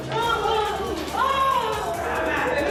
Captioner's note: sobbing